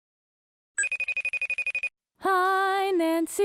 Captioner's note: facetime ringtone